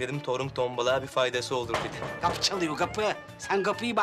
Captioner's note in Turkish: Kapı vurulma sesi